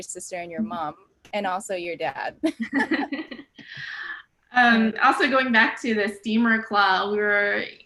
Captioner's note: laugh